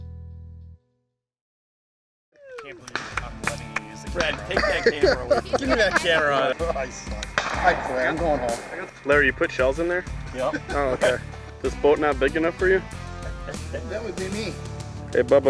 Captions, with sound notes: - I can't believe I'm letting you use the camera on me, give me that camera out. - I suck, I quit, I'm goin' home. - [Voiceover] Larry, you put shells in there? - Yep. - [Voiceover] Oh, OK. This boat not big enough for you? - That would be me.